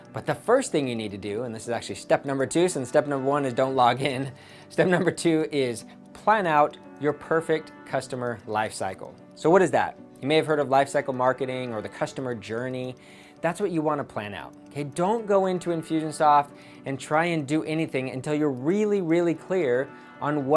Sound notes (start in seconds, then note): 4.8 chuckles